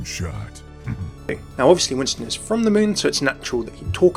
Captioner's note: voiceover